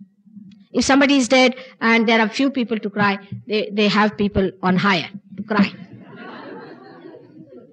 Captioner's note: laughter